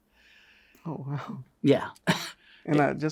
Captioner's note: laughs